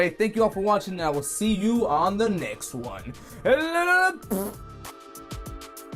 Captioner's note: fart